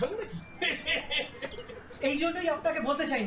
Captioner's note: laugh